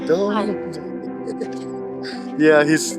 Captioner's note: laughing